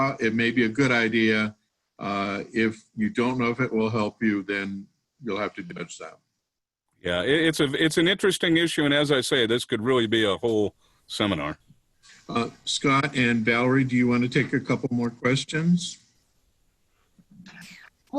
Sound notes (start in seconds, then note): none